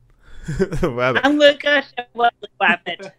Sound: laughing

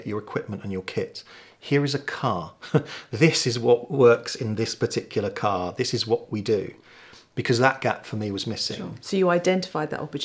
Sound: laughing

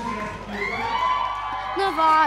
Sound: cheering

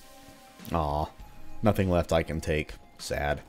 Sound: none

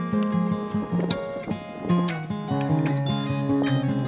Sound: sound of wind

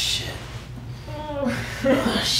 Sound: moaning

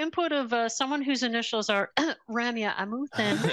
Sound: clears throat

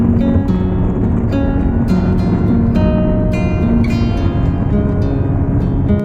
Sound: cars running without mercy

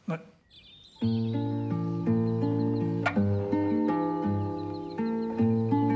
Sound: birds chirping; gentle music

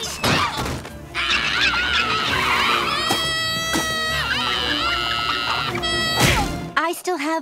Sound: screaming

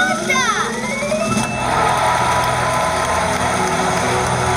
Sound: crowd applauding

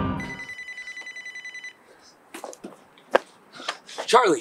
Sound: phone rings

